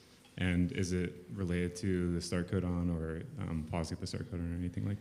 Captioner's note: faintly speaking